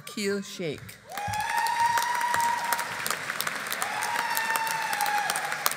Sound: audience applauding

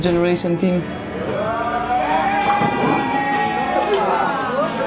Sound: cheering

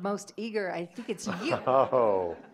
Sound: audience laughing; laughs

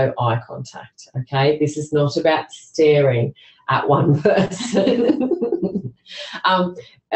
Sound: laughter

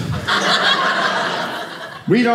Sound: audience laughing

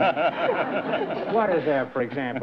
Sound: laughter

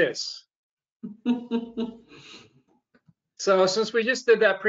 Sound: laughs

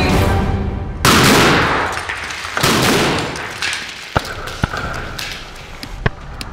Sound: explosion

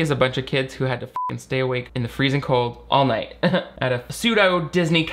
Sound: beep

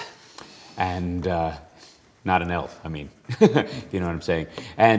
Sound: laughs

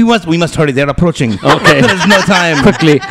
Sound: laughter

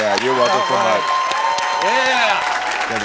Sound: audience applauding

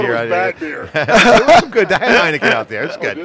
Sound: laughing

